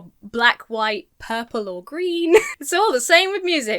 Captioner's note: laughs